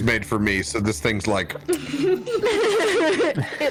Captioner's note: laughs